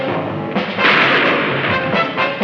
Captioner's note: shot firing